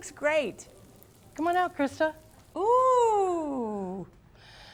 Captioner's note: sizzling